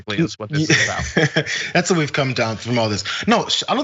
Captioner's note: laugh